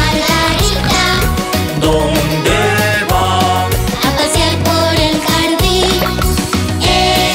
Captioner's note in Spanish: Sonido de animales